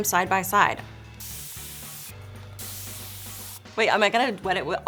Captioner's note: water sprays